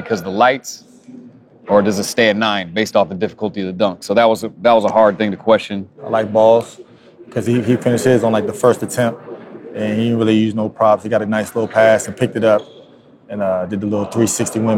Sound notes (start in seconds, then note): none